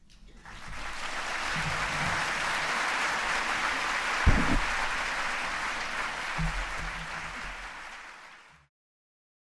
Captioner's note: applause